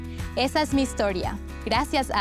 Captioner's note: speaking Spanish